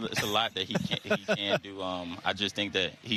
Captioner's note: laughter